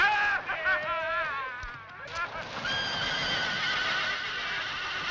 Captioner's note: screaming; horse whinnying